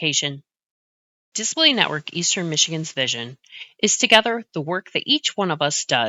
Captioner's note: voiceover